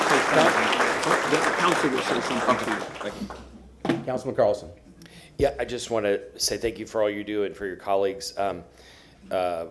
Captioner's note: applause